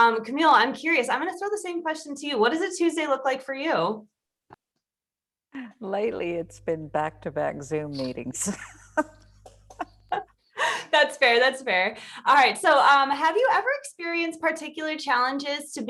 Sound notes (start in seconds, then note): 8.5 laughs